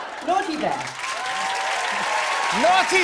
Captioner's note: cheers and applause